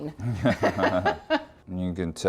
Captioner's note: laughing